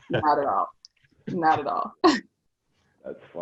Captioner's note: laughing; laughs